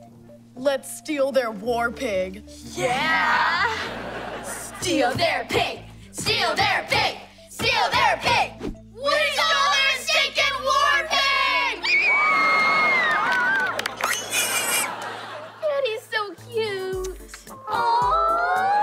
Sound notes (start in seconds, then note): 11.5 cheering; 14.1 oinking